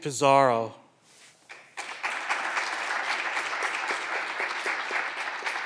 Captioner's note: clapping continues